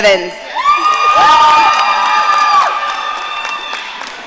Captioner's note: audience cheering